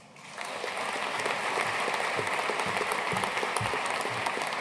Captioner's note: audience applauding